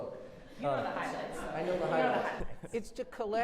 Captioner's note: audience laughing